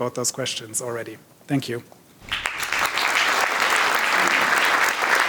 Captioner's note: audience applauding